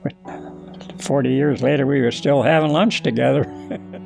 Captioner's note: chuckles